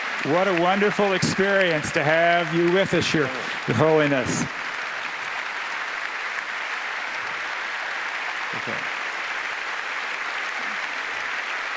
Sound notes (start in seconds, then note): 5.2 applause